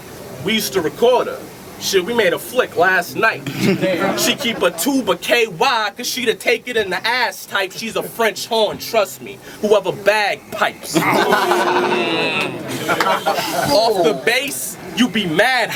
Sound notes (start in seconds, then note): 9.3 horn; 10.7 crowd Reaction; 14.4 bass